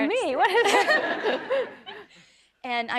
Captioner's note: audience laughing